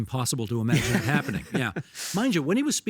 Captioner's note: laughing